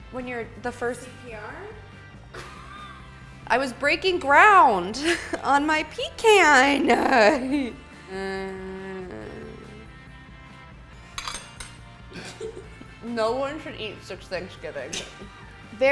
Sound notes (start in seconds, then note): 2.3 laughing; 8.1 groaning; 11.1 plate clinking; 12.1 laughing